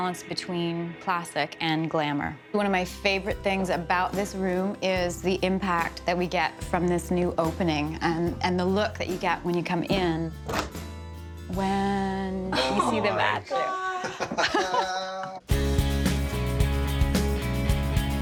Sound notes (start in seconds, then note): 13.9 chuckling